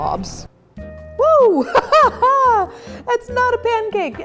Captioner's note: laughs